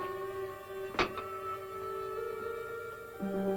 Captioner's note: door thuds